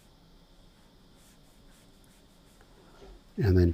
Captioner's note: silence